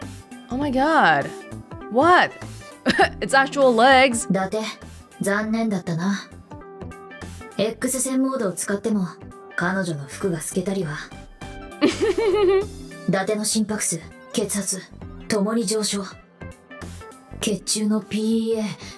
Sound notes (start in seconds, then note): 2.9 chuckles; 11.8 chuckles